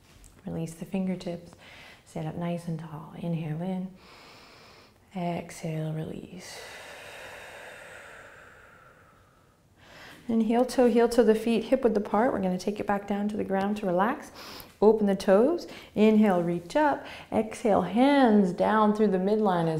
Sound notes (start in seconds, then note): 4.1 inhaling; 6.4 exhaling